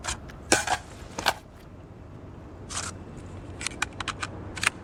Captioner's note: gun clicking